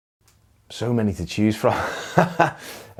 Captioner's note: laughs